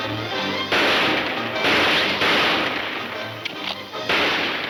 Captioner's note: gunshots banging